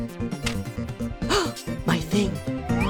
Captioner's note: gasp